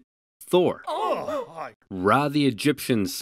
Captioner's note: gasps